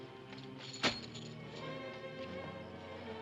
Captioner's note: coins jingle; ominous music